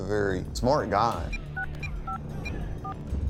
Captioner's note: phone dialing